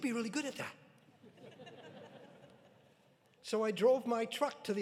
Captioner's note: audience laughing